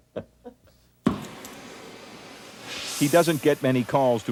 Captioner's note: flame hisses